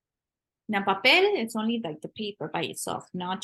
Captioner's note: spanish